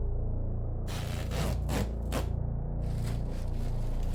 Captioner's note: duct tape tearing; plastic tarp shuffling